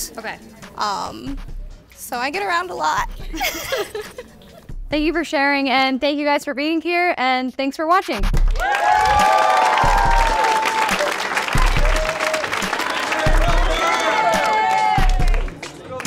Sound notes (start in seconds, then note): 3.3 laughing; 8.3 crowd clapping; 8.5 crowd cheering